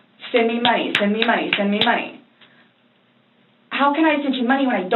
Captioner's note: hands smacking together